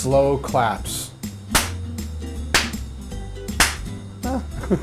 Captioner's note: 3 slow claps